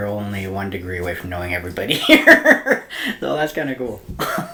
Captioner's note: laughs